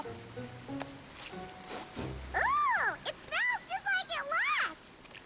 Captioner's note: sniff